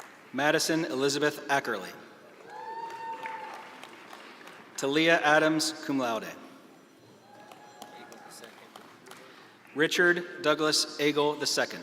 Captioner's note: graduates walking